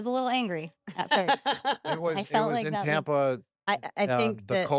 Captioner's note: laugh